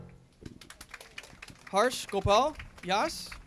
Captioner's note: applause